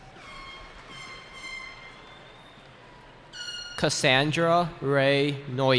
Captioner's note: cheering